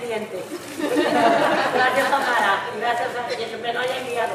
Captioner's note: audience laughing